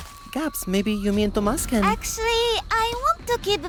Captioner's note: none